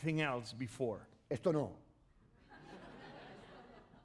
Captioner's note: speaking spanish